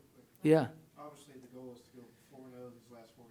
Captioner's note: voiceover